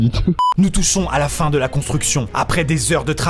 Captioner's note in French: voix off